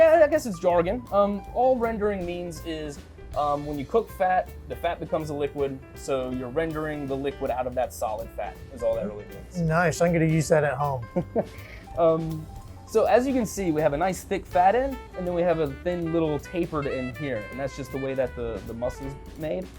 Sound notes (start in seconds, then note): 11.0 chuckles